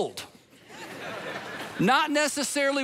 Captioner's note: congregation laughing